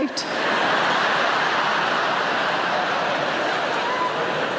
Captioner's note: audience laughing